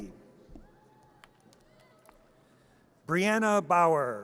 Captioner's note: audience cheers